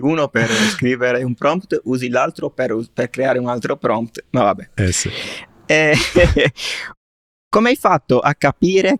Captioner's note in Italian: risate